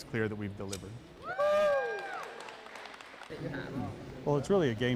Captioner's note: cheering and applause